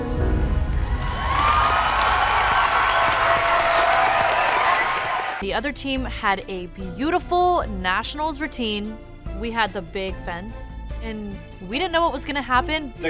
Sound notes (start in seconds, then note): 0.4 music fades; 0.6 cheers and applause